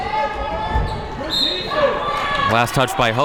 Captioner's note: whistle blows